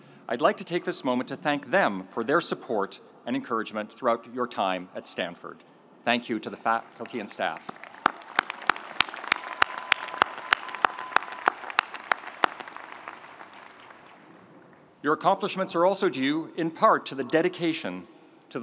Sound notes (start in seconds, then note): 6.9 audience applauding; 7.7 audience cheering